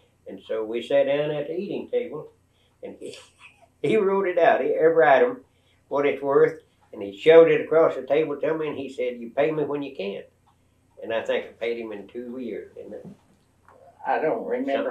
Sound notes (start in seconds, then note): 11.0 laughs